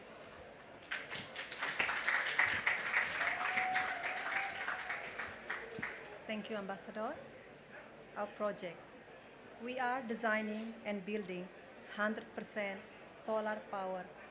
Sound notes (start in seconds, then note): 0.6 applause